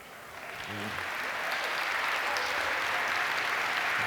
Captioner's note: applause